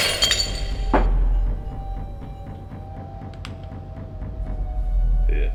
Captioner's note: glass breaking; footstep; shotgun cocked